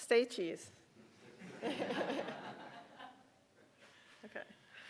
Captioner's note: audience laughing